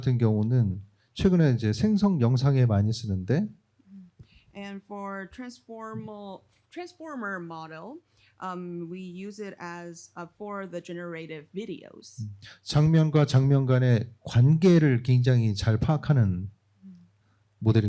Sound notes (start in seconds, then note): 12.6 speaking korean